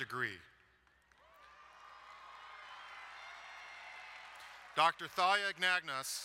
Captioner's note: crowd cheering